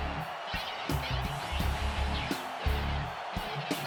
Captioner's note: crowd cheering